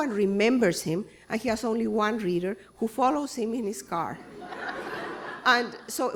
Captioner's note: laughter